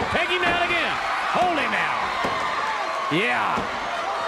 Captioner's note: crowd cheering